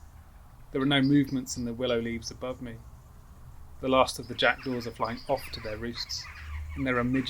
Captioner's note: rasping caws sound